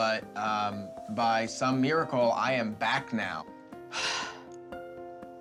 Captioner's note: sighs